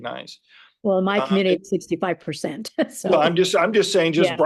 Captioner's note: laughs